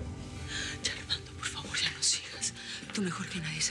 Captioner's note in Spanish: Susurra